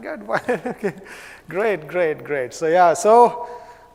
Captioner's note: laugh